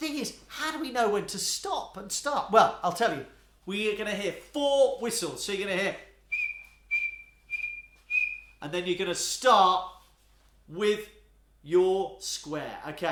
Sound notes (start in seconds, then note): 6.2 four whistling sounds